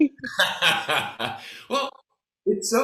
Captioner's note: both laughing